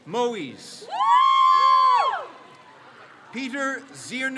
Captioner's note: crowd cheers